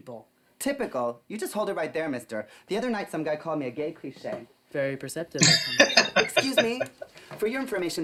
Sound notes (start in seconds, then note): 5.4 laughing